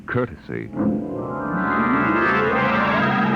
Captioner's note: horn Blows